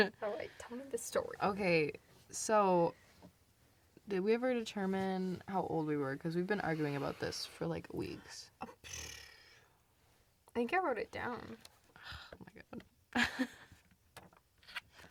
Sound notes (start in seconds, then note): 8.6 sighs; 8.8 lip trills; 11.9 scoffs; 13.1 laughs